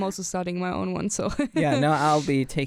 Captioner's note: chuckles